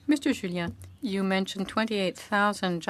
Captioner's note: speaking French